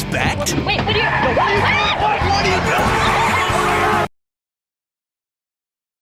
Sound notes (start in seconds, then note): 0.9 car screeches; 1.0 screams; 1.0 everybody screams in fear